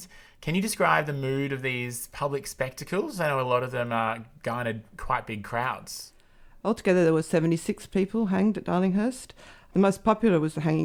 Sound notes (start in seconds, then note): none